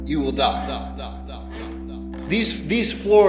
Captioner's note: creaking floorboads